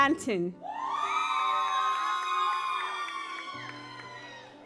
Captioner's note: audience applauds